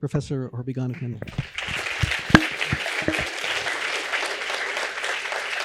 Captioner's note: applause